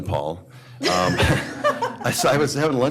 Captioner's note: laughter